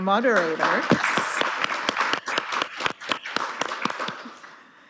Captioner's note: audience applauding